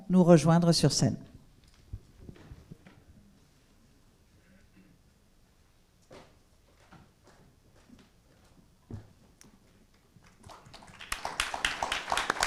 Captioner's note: applause